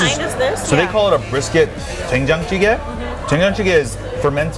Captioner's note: says in foreign language